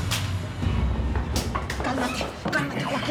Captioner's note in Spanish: puñetazo